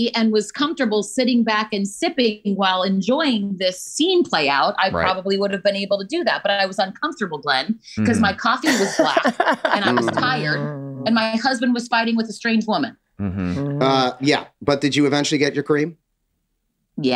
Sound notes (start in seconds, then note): 9.6 Megan laughs